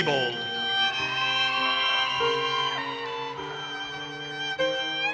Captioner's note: audience cheers and applauses